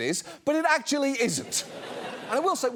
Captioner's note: audience laughs